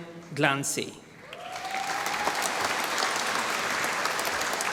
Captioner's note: applause